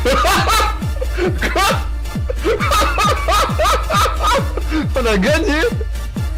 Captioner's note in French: Rire